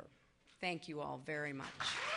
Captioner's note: applause